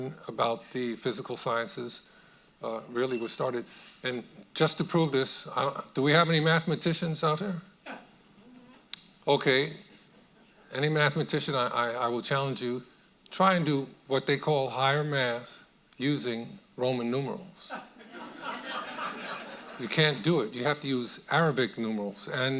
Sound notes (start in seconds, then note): 17.7 audience laughing